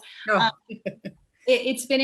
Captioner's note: laughs